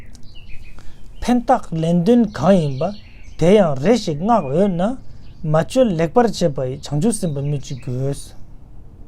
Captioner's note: tibetan